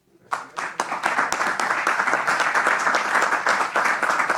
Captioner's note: applause